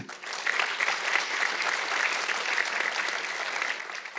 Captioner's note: audience clapping